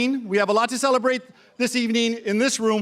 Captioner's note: none